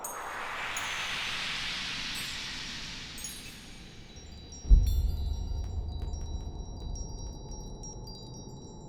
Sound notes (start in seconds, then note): 0.9 swoosh and chimes